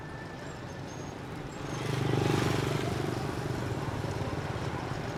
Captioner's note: engines rumbling